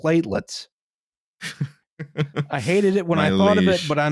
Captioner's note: chuckles as only can